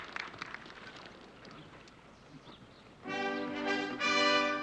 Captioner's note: whispering